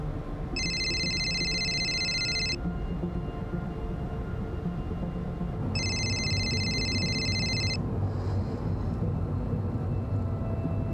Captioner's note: phone ringing